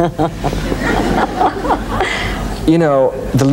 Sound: laughs

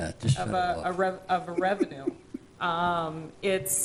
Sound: laughing

